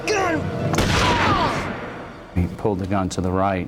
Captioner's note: gun firing